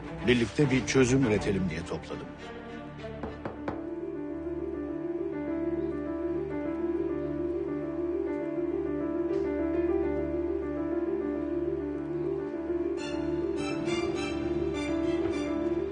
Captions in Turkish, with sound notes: Birlikte bir çözüm üretelim diye topladım. [kapı çalar] [gerilim müziği devam eder]